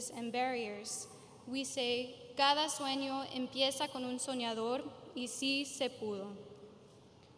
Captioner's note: speaking in foreign language